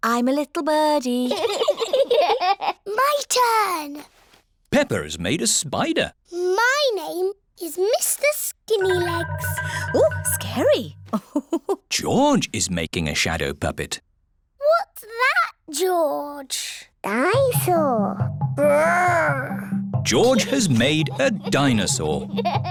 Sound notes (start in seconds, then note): 1.3 both giggle; 11.0 laughs